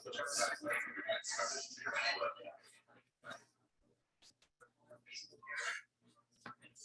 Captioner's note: people chattering indistinctly continues